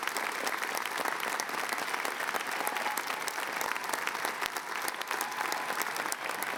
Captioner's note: applause